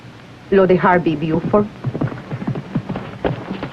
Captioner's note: hoofbeats approaching